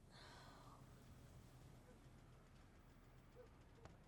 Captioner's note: Mia sighs painfully